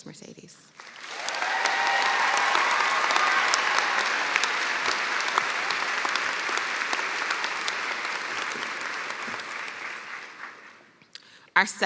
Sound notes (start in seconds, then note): 3.5 cheers and applause